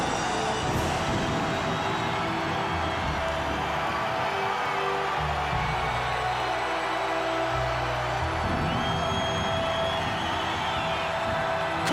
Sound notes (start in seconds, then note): 1.0 ominous music continues; 4.4 audience cheers